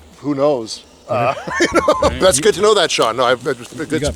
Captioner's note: laughs